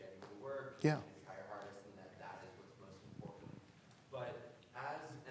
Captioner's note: voice muffled